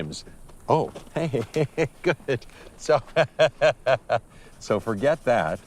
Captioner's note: laughs